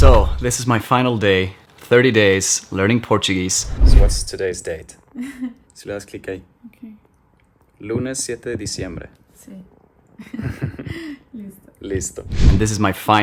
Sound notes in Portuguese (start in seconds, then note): 10.2 risos